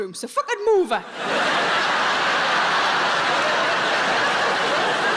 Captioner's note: audience laughing